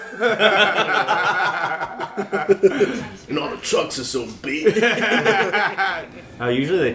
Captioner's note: laughter